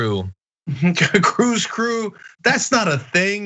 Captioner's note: laugh